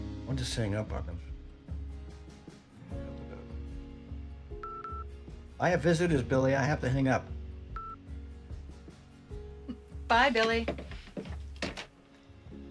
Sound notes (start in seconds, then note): 4.5 beeps; 7.8 soft chuckle